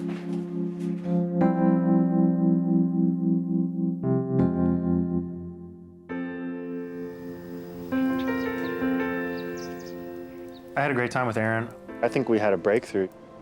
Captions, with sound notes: (suspenseful music continues) (gentle music) (birds chirping) - I had a great time with Erin. I think we had a breakthrough.